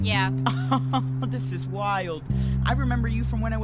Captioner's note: laughs